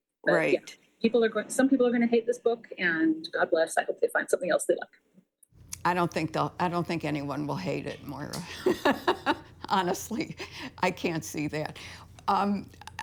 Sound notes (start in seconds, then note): 8.4 laughter